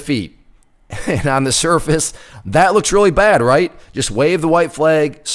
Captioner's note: laughs